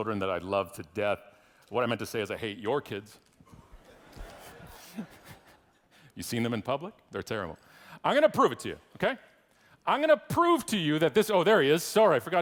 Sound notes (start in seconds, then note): 3.6 audience laughing